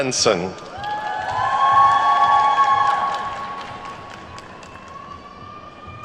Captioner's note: attendees whooping and clapping